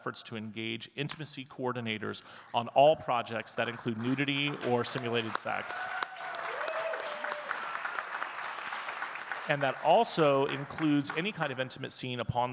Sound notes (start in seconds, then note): 6.0 audience clapping and cheering